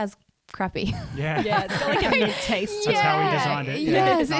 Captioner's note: laughing together